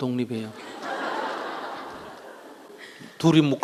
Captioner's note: audience Laughter